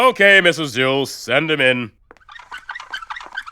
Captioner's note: wheelchair squeaks